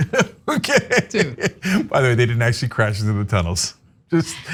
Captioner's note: laugh